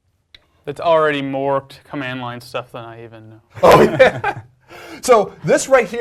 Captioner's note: laugh